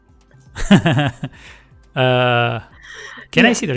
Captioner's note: laughs